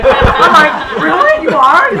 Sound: crowd laughs

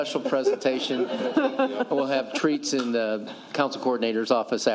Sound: laughter

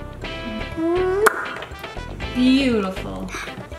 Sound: lips smacking

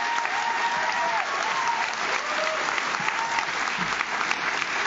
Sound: audience cheers

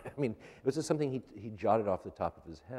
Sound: laughter

